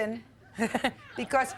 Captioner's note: Judge Judy laughing